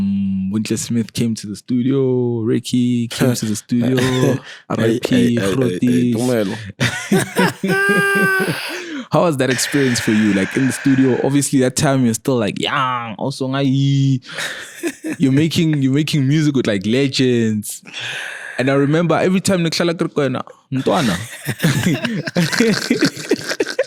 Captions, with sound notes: “Buhle Smith” came to the studio, Ricky came to the studio, RIP grooties... [Laughing] How was that experience for you like in studio? Obviously at that time you were still young also this side you making music with Legends I remember I always said to you ntwana?